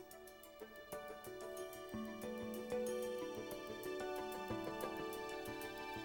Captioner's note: none